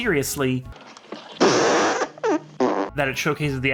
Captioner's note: intense flatulence